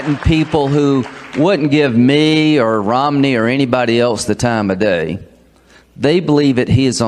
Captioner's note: applause